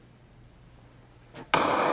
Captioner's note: gavel bangs